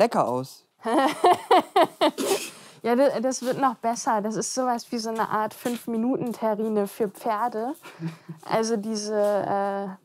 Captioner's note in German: lacht